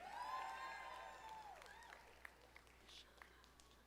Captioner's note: audience applauding